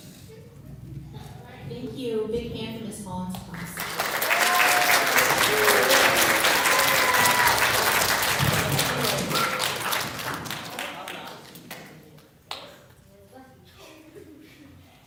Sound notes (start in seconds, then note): 9.7 applause